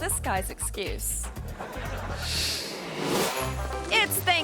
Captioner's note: audience laughing